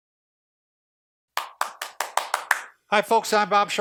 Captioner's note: clapping